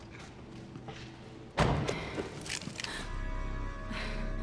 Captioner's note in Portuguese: respirando pesado